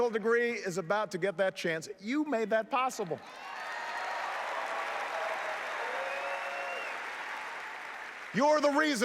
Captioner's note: applause